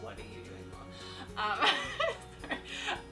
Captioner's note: laughs